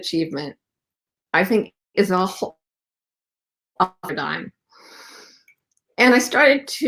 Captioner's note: voice distorted